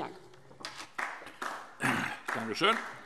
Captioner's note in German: Beifall DIE LINKE